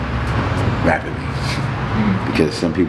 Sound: chuckling

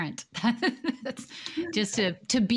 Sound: laughing

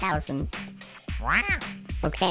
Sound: angrily squawking

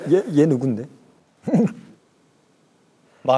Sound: startled laughter

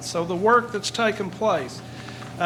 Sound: none

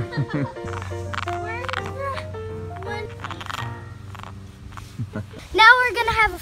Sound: frog croaking

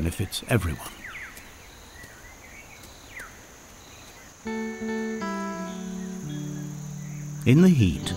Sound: nature sounds; peaceful music

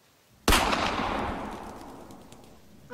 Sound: gunshot

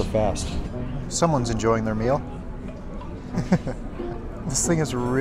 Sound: laughs

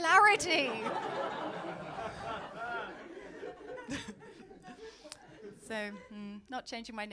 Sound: laughter

